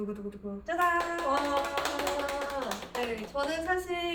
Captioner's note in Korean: 박수